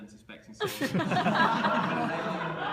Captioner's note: laughter